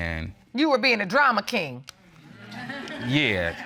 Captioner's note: audience laughing